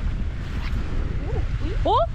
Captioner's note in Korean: 휙!!